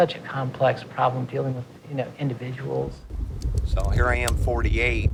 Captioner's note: beer cracks open